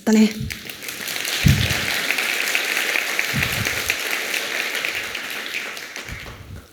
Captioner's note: applause